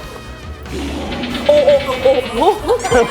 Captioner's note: grunting